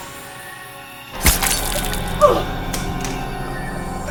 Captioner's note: Caroline moaning; Justin moaning; dramatic music